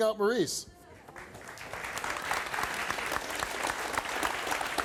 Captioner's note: audience claps